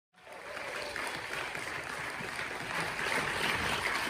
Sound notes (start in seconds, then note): 0.1 audience applauding